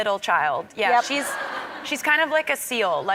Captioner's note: crowd members laughing